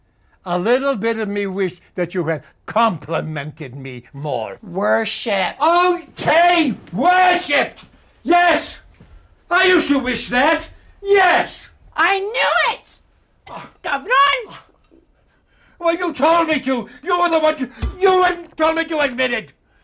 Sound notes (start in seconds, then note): 13.7 speaking spanish